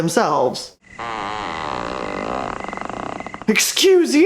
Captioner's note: loud, fart-sounding creak